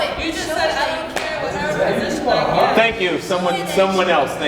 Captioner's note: crowd talking over each other